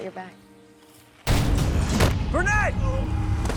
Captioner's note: leaves crunch